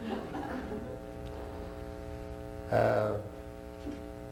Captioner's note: laughter